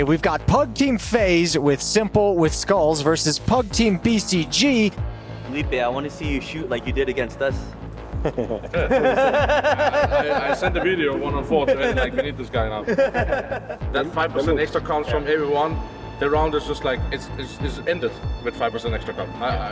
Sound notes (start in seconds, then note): 8.2 group laughing; 12.8 person laughing